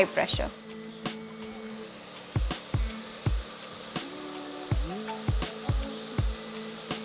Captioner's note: sizzling sound; soft music